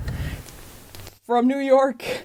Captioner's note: radio crackling